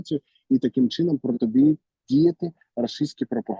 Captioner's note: Russian